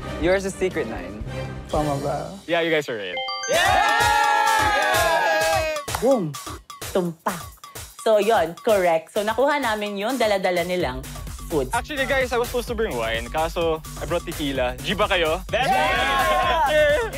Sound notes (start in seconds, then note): 3.3 upbeat music playing; 3.4 exclaiming